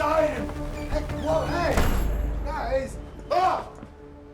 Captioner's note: screams